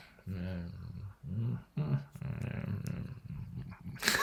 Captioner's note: grumbling